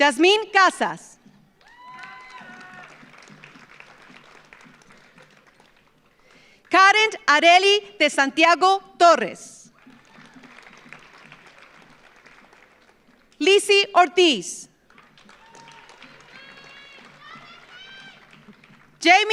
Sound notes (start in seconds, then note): 1.6 audience applauds; 1.6 audience cheers; 9.7 audience applauds; 14.8 audience applauds; 15.0 audience cheers